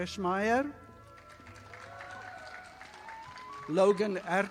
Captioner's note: audience applauding